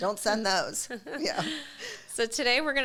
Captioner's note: chuckles